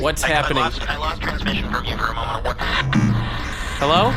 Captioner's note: garbled static, then cuts off